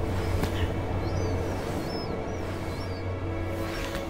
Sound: heavy breathing

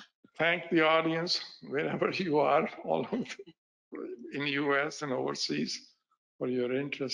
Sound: laughing

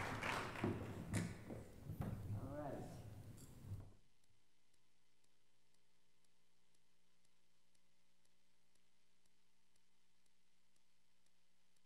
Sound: applause

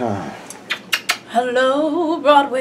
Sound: kissing

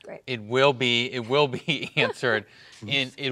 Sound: laughs

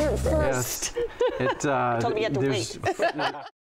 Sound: laughs

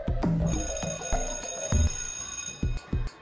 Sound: electronic music; school bell rings

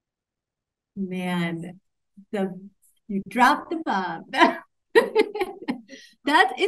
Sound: laughs

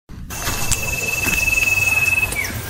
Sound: footsteps

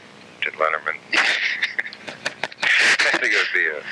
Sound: laughing

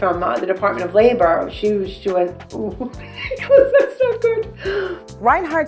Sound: giggles

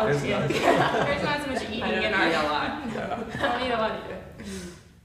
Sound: students talking and laughing

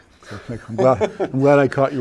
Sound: chuckles

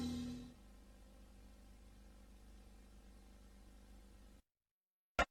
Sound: quiet tv static

